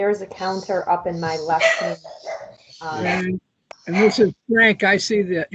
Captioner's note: dog barking